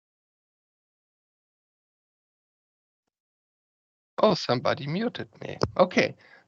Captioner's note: silcence